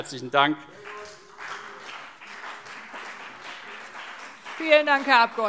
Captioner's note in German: Beifall CDU und BÜNDNIS 90/DIE GRÜNEN